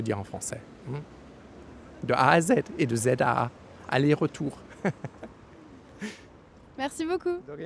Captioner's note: laughing